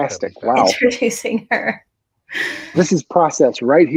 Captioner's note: laughing